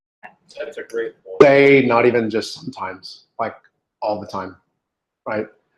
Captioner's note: warble